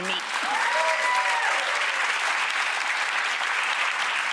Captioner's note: applause